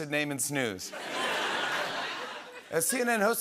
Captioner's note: laughter